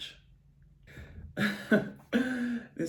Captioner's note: giggles